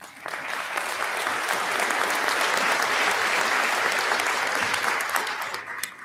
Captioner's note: applause